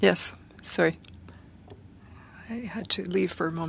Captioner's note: speaking FRENCH